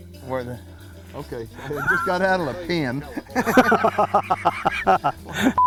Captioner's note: laughing